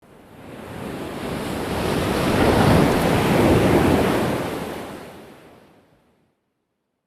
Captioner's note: waves crashing